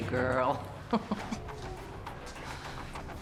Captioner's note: chuckles